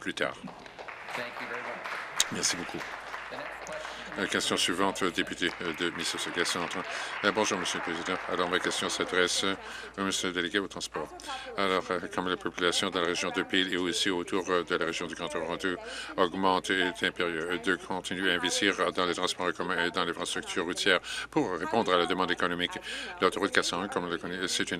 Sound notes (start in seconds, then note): 5.6 applause